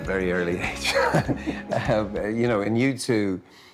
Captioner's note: laughter